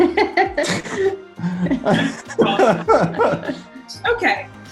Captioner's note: laughing